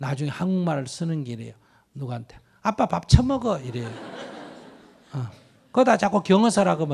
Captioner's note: audience Laughter